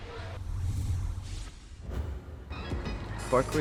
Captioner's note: scene whooshing